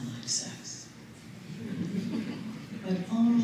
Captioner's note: chuckles